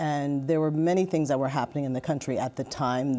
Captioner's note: none